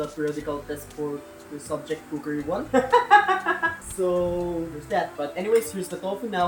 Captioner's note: laughs